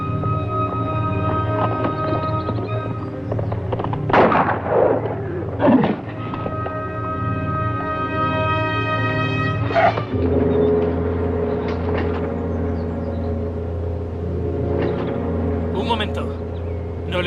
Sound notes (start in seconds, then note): 4.0 gun fires